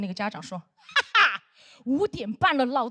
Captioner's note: laughing